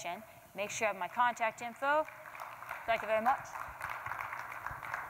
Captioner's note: applause